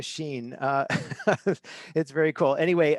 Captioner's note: chuckles